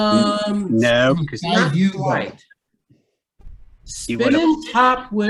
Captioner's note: indistinct tutorial viewer chatter